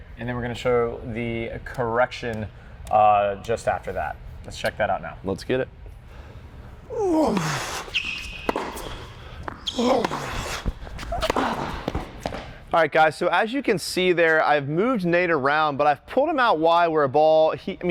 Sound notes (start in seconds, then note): 6.9 grunting; 8.5 squeaking of shoes